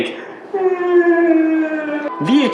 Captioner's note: cries